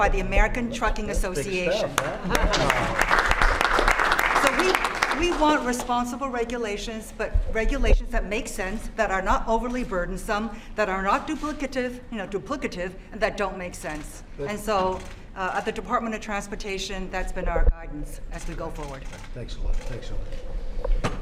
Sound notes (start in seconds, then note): 1.9 applause